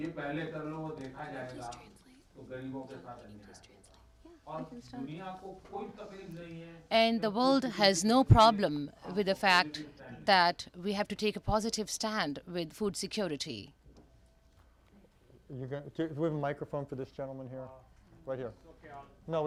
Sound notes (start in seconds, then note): 3.4 through translator